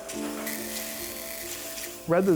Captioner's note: drill whirs